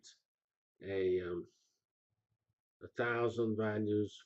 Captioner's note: pause